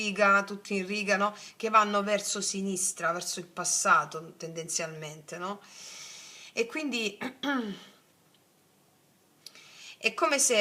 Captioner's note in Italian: schiarire la voce